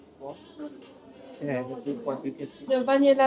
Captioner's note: speaking in foreign language